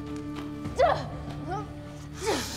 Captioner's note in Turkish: Aslıhan inleme sesi